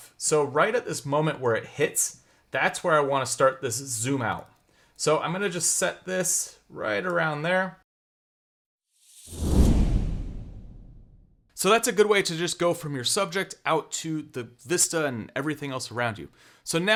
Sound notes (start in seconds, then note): 9.0 whooshing sound